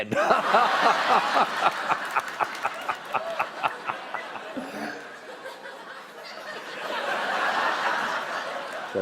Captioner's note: laughter